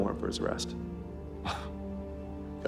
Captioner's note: scoffs